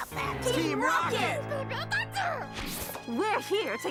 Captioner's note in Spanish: enojado